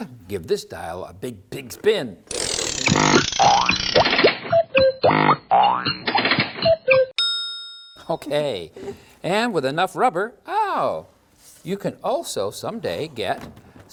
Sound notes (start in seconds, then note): 2.3 CRANKING noise; 3.1 silly factory noises; 7.1 ding!